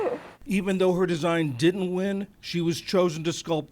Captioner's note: voice-over